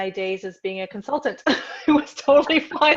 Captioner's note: laughs